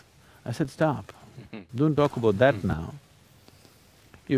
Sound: laughs

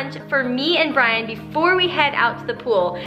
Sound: none

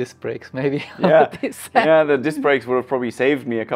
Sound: laughs

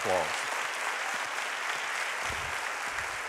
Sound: applauding

